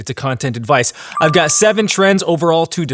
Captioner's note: bell ringing